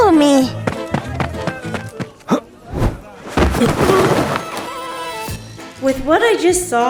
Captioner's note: running, Gareth grunts, lands hard on ground